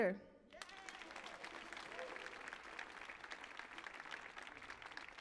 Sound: audience applauding

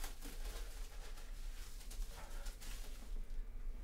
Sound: none

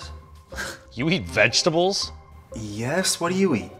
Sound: scoffs

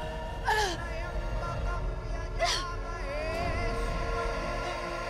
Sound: chant

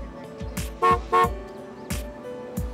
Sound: honking

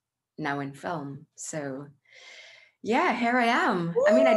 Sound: whoops

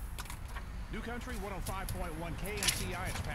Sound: radio Male Voice

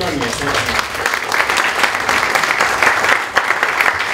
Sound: applause

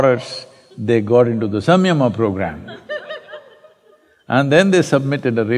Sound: laughter

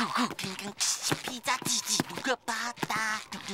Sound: humming and beatboxing

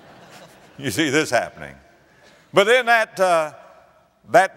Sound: laughter

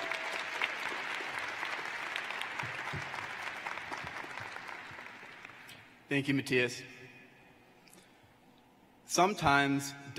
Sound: applause

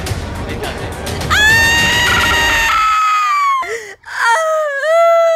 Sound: suspenseful music playing; screaming; crying

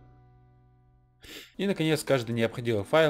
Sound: sniff

